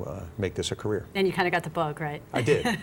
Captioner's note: laughter